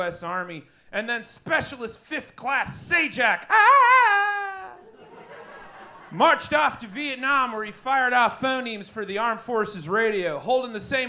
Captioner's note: ahhahahaa